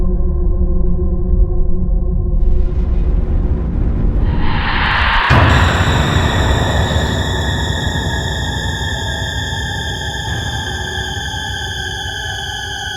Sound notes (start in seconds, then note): 4.8 ghostly breath blowing